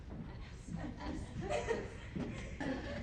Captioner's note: members whispering